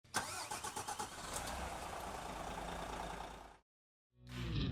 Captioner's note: engine rumbling